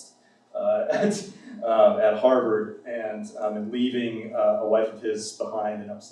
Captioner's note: laughs